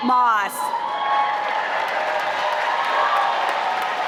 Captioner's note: applause